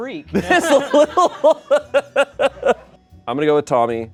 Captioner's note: laughs